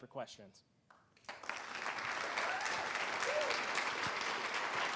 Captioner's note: applause